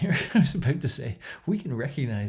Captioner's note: chuckles